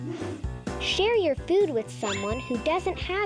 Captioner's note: check mark rings